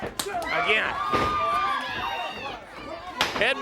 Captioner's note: crowd chatter